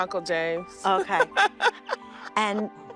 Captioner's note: laughing